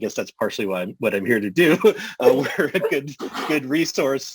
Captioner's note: laughter